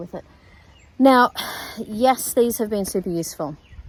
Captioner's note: sighs